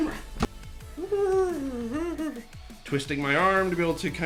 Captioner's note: humming